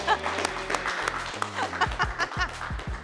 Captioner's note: people cheering; laughs